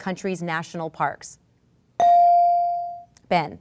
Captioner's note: ding